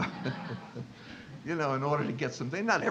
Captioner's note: audience laughing